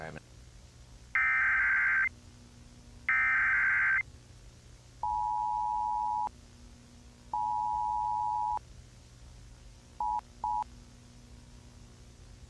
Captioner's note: loud Tones